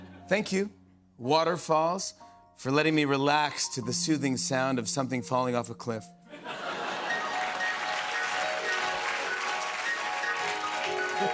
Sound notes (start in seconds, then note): 6.3 laughter; 7.0 applause